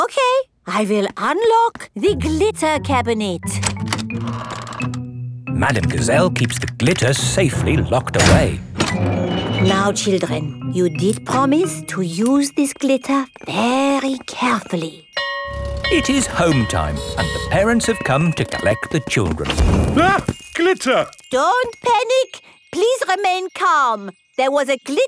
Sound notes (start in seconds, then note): 15.0 school bell ringing